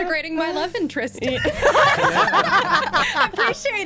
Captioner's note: laughter